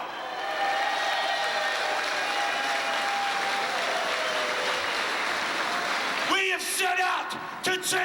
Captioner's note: crowd cheering